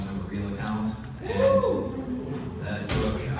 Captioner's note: audience "whoo"s